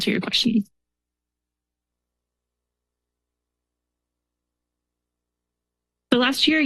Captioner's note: silence